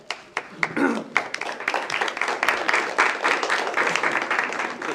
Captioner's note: applause